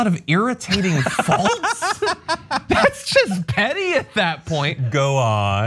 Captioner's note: laugh